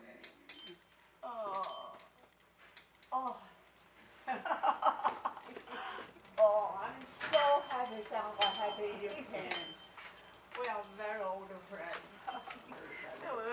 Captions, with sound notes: (laughter) - Oh, I'm so happy you came. We are very old friends.